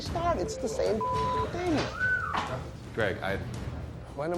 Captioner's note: whistles